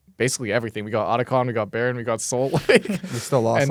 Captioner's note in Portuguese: risos